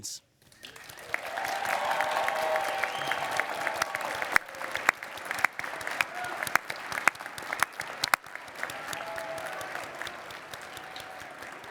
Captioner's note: cheering and applause